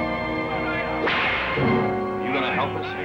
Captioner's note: whip cracks